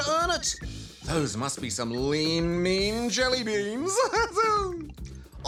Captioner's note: laughs